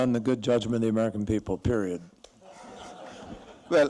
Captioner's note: laughter